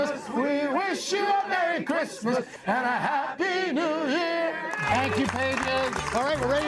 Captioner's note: cheers and applause